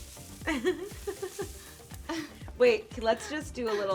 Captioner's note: laughs